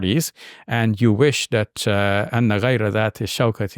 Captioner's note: speaks in Arabic